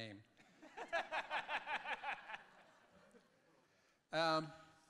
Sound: audience laughing

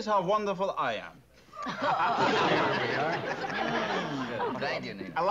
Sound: laughing

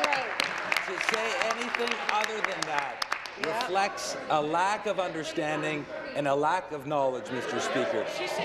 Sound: applause

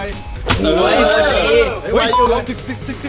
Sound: hit

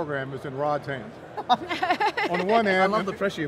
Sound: laughing

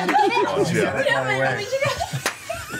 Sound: laughs

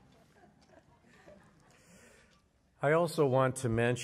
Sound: laughter

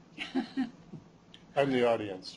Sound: chuckles

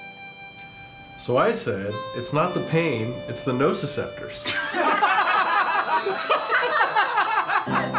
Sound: laughter

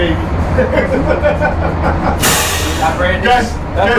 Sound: laughs

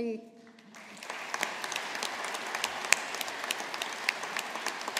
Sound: audience applauding

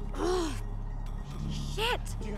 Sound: Adrienne grunts

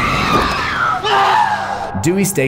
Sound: screams

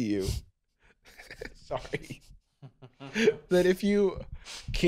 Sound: laughing

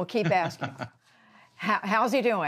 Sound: laughter

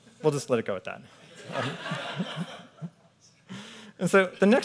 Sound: audience laughing

